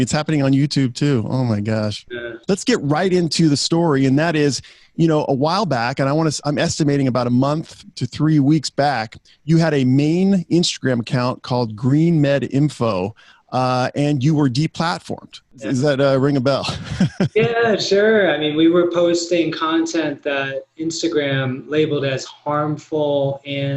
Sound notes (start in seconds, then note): 16.6 laughs